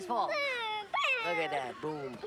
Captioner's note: kids whine